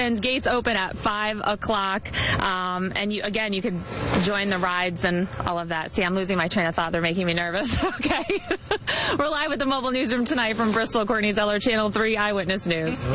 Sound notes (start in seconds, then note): 7.6 laughing